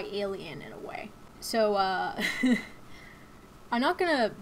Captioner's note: chuckles